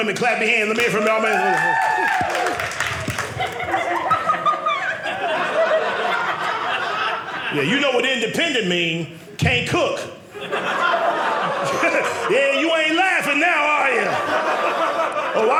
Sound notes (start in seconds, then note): 0.6 audience cheering; 10.2 audience laughing